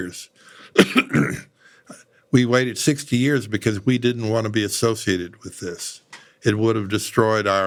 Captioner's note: cough